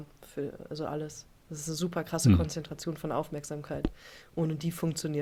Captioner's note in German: räuspern